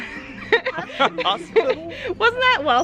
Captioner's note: laughing